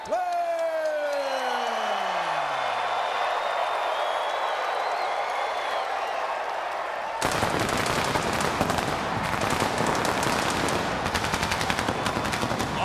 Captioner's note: crowd cheering